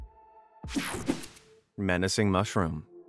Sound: screen whooshing

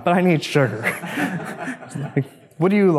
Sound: audience laughs

